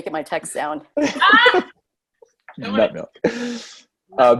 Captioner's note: all laugh